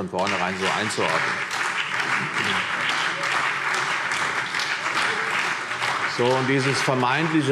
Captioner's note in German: Beifall CDU, BÜNDNIS 90/DIE GRÜNEN und SPD